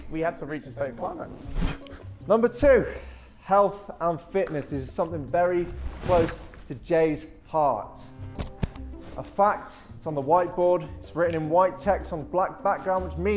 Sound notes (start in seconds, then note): none